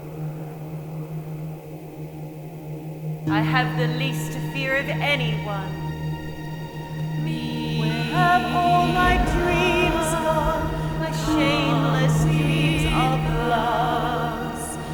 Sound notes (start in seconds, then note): 7.4 sirens singing; 8.6 singing; 10.9 sirens singing; 12.6 singing